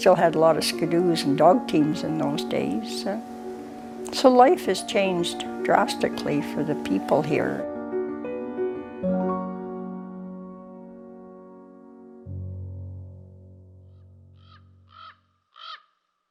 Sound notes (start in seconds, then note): 14.3 raven call